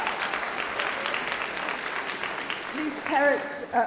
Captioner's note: applause